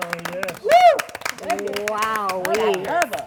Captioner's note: cheers and applause